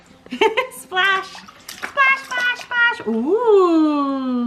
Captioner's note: laughs